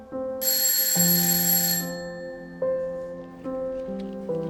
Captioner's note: door bell ringing